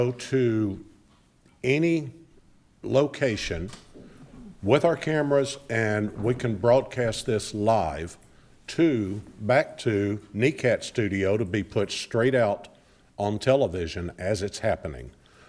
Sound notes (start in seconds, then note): none